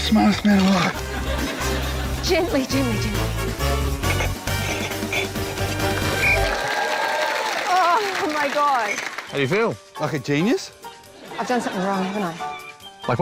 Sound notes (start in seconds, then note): 6.1 blows whistle; 6.4 applause